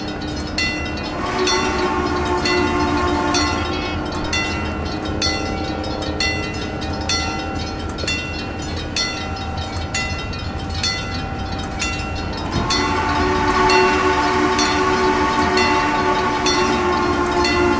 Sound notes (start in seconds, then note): 0.9 CNJ Blue Comet Pacific whistle; 6.5 wig wag ringing, CNJ Blue Comet Pacific whistle